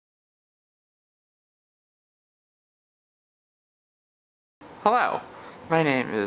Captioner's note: pause